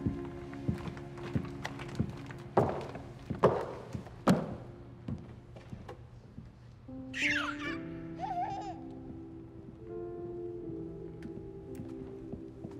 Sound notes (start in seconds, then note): 7.1 baby squealing happily